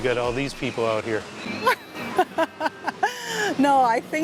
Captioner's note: laughs